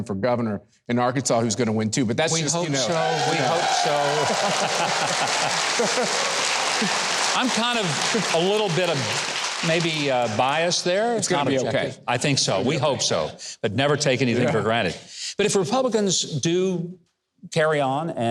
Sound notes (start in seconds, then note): 4.4 audience applauding; 4.4 audience cheering